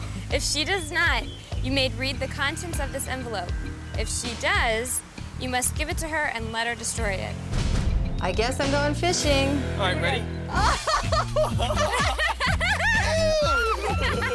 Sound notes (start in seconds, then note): 10.5 laughs